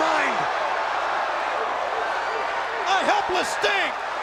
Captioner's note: crowd cheering